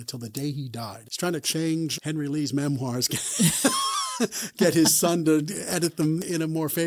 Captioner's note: both laugh